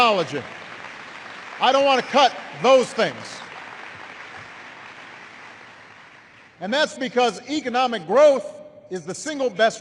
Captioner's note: applause